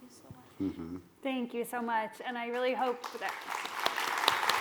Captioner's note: applause